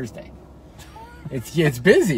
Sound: laughs

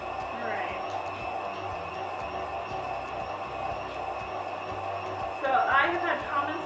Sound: whirring sounds

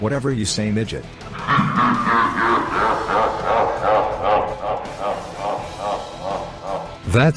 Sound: evil laughter

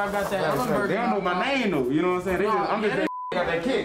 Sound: chatter

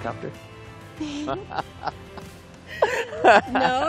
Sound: chuckling

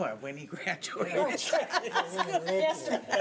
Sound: laughing

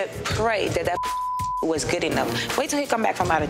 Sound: beep

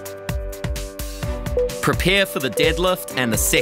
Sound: timer beeping

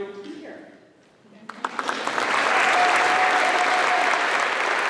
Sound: applause

